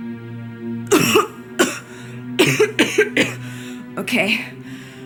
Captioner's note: she coughs